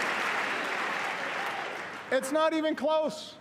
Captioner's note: applause